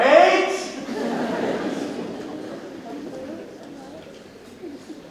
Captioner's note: audience laughs